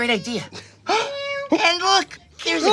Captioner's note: gasps; cat meows